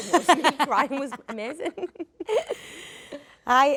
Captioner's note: Jodie laughs